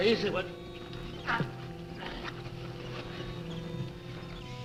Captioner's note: men grunting